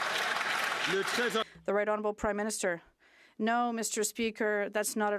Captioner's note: some Applause